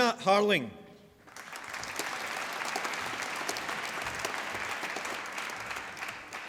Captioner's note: applause